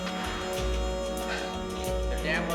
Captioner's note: scoffs